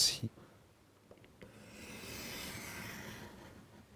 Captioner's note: sound of cutting